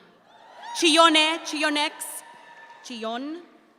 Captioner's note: audience applauds